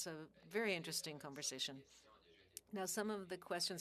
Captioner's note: speaking French